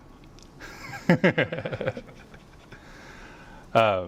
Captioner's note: laughs